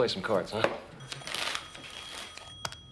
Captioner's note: telephone rings